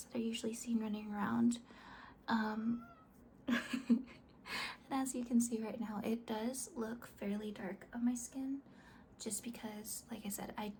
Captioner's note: laughs